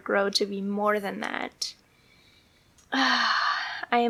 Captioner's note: sigh